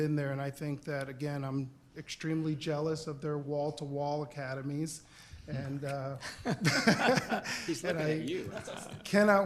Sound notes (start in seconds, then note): 4.4 laughter